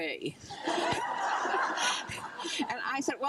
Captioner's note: crowd laughing